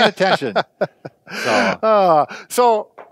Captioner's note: laughing